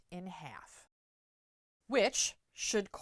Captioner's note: no Sound Present